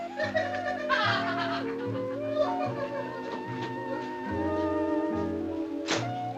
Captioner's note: Fruity giggling